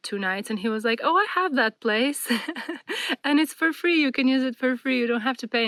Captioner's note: laughter